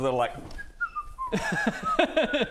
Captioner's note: stealth whistle